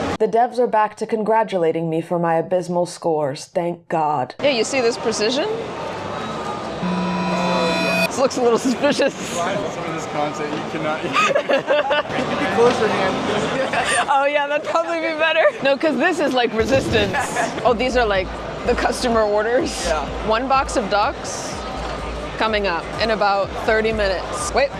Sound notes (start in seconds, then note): 6.8 ringing tone; 9.4 laughs; 11.0 laughter; 14.1 laughing